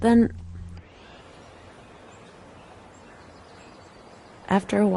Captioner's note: birds and nature sounds